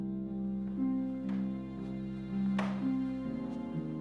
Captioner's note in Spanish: puerta haciendo clic